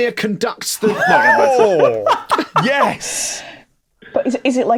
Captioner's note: giggles loudly